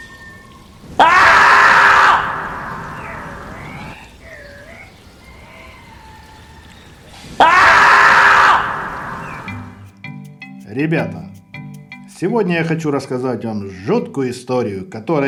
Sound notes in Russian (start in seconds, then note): 0.9 суслик кричит человеческим голосом